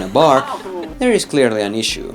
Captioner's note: laughs